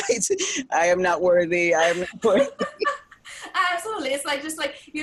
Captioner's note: laughing